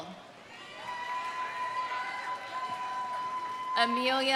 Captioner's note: audience cheering; audience applauding